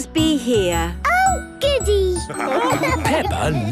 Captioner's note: laughing